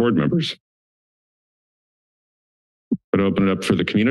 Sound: silence

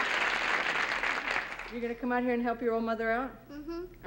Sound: applause

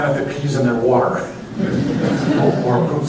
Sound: laughter

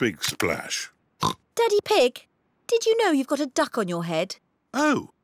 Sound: oinks

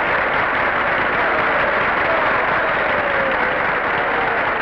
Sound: applause and cheers continue

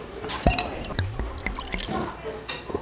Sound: gurgle Gurgle

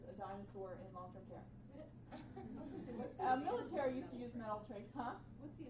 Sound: laughing

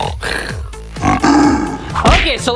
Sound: lion roar

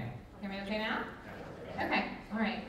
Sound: crowd

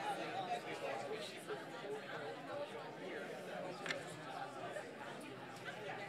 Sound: people chatting indistinctly

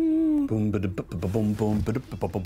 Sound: high pitched hum; beatboxes

